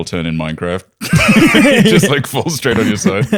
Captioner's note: laughter